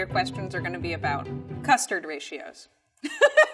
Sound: laughs

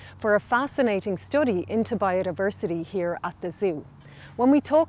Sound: none

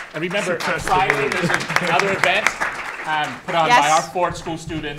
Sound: applause

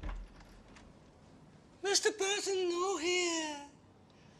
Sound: silly, high-pitched voice

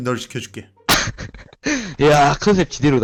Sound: laughter

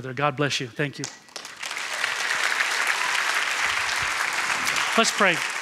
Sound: applause

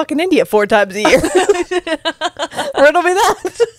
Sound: panel laughing

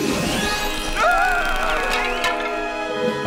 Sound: screaming

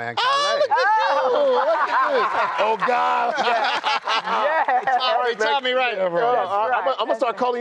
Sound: laughter

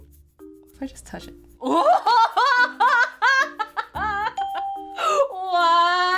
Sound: laughs; ding

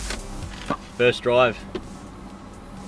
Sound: trim clicks

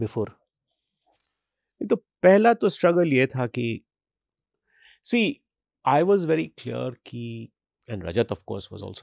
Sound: speaks hindi

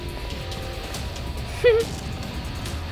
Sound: chuckles

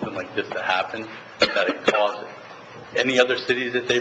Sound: member coughing

